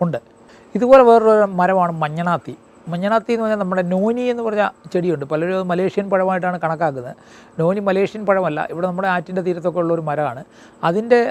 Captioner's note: in Malayalam